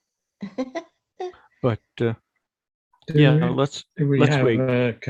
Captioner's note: chuckles